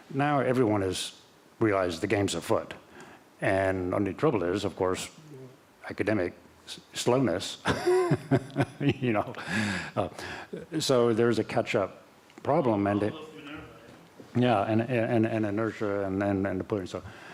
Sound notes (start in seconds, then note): 7.6 laughter